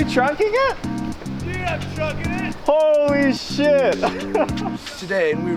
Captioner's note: laughing